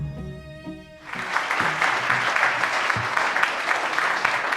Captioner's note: audience claps